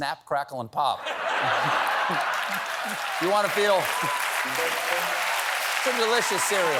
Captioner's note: laughter